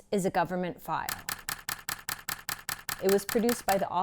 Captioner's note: camera shutter clicking